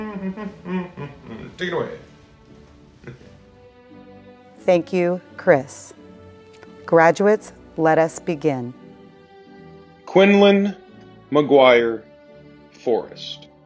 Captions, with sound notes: Take it away. (chuckles) - Thank you, Chris. Graduates, let us begin.